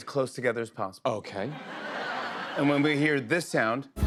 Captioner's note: laughter